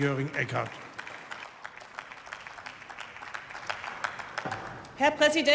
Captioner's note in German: Beifall